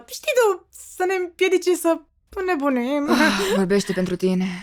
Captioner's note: sighs; chuckles nervously